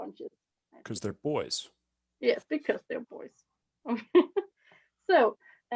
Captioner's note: chuckles